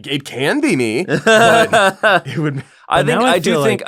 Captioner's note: laughter